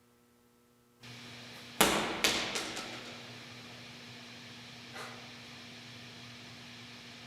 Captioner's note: static humming; ball thudding